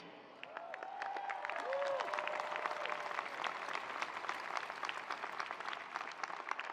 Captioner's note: attendees applauding; attendees cheering